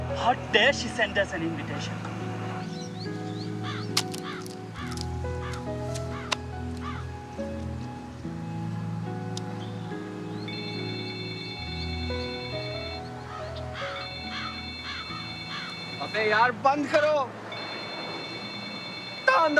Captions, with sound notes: How dare she sends us an invitation. [phone rings] Stop the damn thing